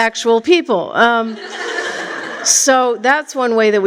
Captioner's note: laughter